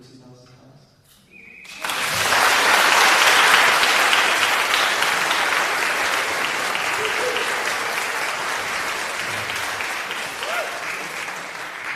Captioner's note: applause